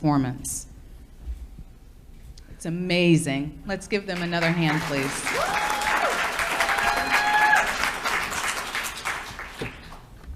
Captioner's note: applause